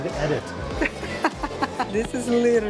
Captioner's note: laughs